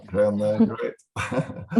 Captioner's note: laughs